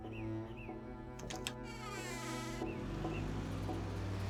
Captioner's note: door creaks